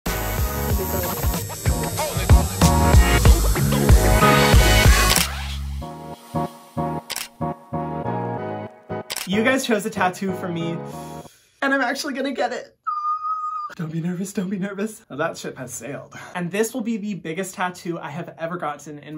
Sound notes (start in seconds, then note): 0.1 tattoo gun buzzing; 4.4 upbeat music